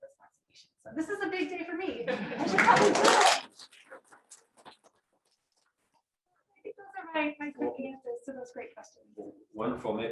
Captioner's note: laughter, applause